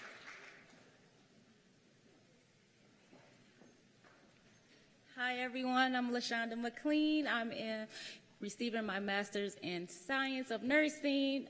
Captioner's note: cheers and applause